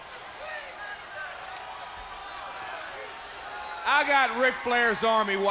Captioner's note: crowd cheering